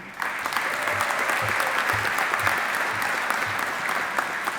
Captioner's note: audience applauding